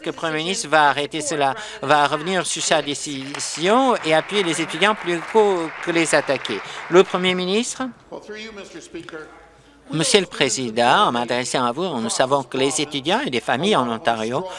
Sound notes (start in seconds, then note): 6.3 applause